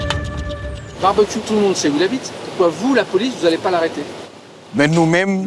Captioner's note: French spoken audio